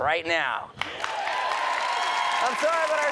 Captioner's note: audience cheers and applauds